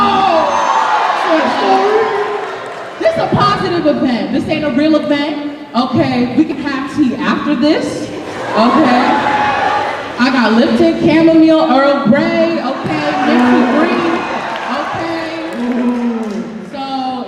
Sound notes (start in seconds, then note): 0.0 cheering; 8.3 cheering